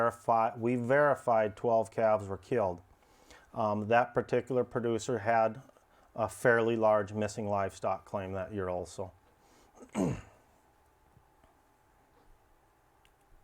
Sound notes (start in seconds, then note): 9.8 clears throat